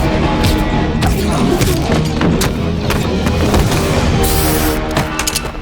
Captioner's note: fists landing; men grunting; dramatic music